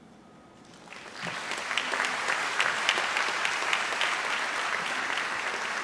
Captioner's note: audience applauds